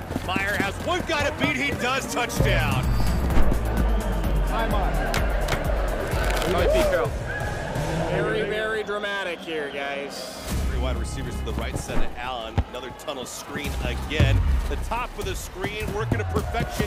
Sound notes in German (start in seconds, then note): 2.8 Dynamische Musik; 5.7 Jubellaut